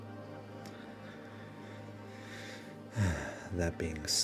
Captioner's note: deep sigh